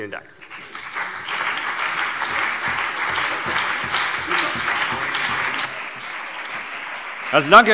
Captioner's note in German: Beifall CDU und BÜNDNIS 90/DIE GRÜNEN